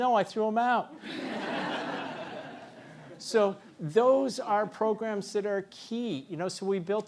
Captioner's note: laugh